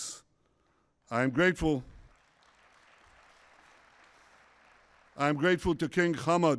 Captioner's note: applause